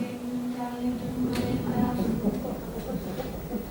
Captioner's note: thunder Rumbles